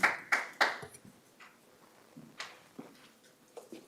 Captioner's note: applause